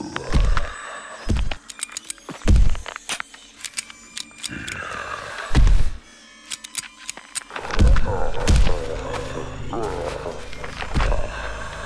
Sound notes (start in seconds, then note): 0.1 mummy snarling; 1.4 trigger clicking; 3.6 gun clacking; 3.7 mummy snarling